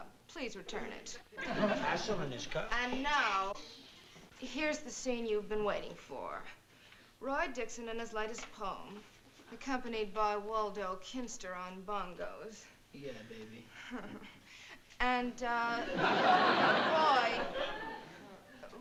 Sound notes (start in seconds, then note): 2.7 shushing